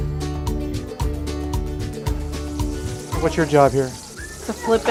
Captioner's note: grease sizzle